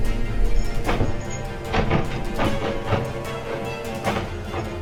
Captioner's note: doorknob rattling; dramatic music